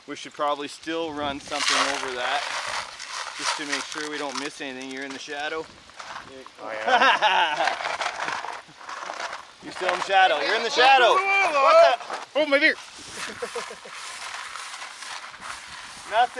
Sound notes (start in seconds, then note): 6.7 crew member laughs; 10.3 group chattering; 13.1 rocks clattering; 13.2 crew member chuckles